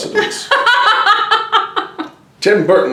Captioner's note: laughs